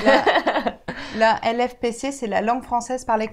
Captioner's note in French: rires